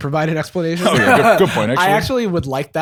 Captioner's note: laughs